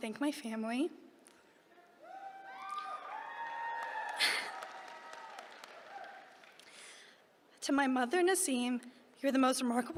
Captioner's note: applause